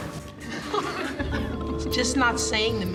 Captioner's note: laughs